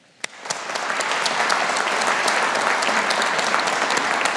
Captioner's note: audience applauding